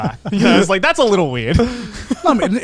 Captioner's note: chuckles